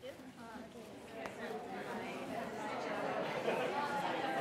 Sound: people chatting

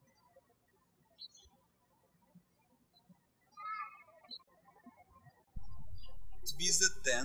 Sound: birds chirping

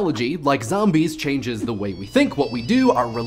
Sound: phone ringing

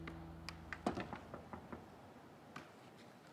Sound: knocking

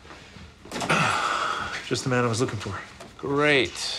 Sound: sighs

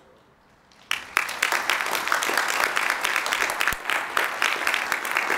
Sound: applause

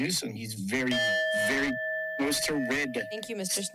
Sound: timer dings

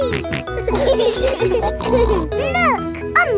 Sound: laughing

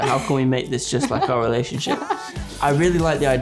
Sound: laughing

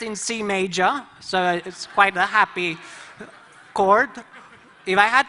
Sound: laughter

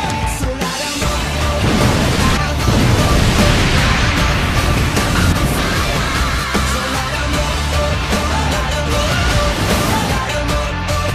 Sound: more explosions

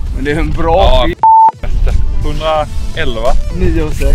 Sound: beep

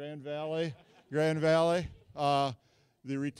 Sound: scattered laughing from audience

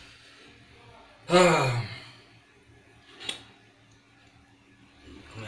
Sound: sigh

